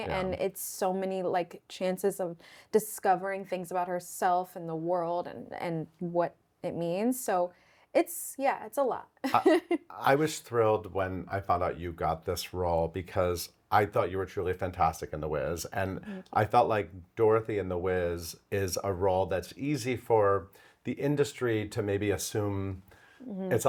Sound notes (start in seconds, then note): 9.3 laughs